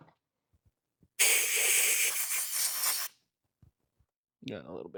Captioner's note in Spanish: Drill Whirring